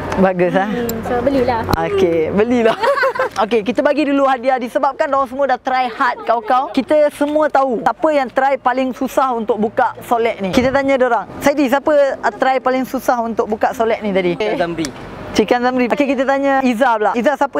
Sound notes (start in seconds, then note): 2.6 laughing